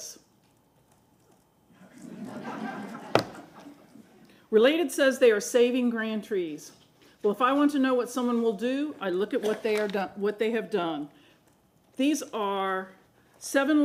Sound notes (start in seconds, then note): 4.8 laughter